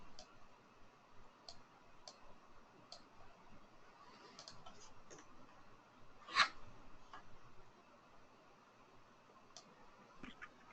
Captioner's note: silence